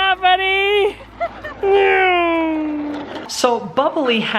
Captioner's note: imitates sound of car driving past